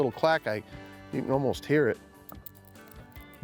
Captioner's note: bait clacking